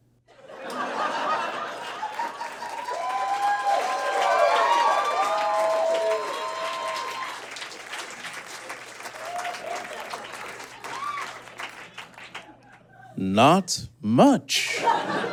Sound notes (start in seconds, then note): 0.4 audience laughs; 2.5 audience cheers, hollers, and applauds